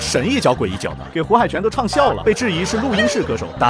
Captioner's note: laughs